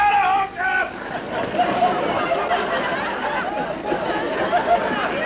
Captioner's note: audience laughter